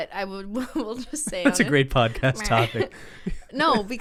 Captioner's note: laughs